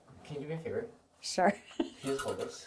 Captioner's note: laughs